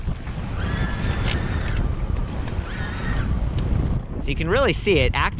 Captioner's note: motor running and wind blowing